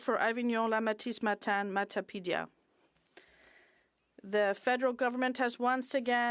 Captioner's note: speaking French